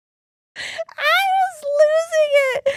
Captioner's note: laughing